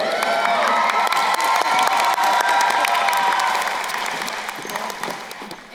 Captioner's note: crowd cheering and applauding